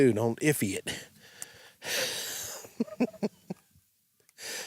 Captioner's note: laughs